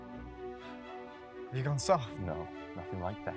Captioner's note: scoffs